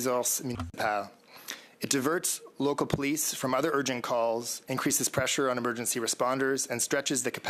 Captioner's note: speaking French